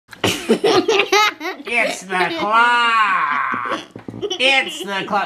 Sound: laughing

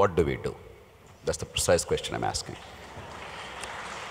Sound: applause

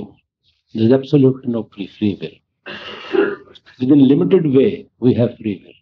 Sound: laughter

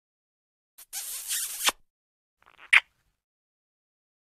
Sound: kiss sound

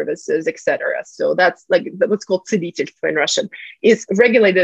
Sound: russian

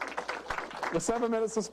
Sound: applause

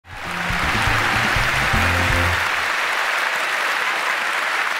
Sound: audience applauding

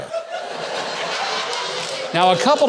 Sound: audience laughing

